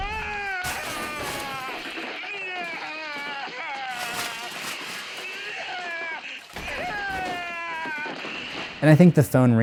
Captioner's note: screaming